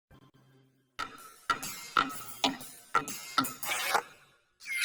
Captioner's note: metal clanging